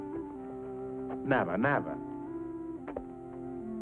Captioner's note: speaks foreign language; sentimental flute music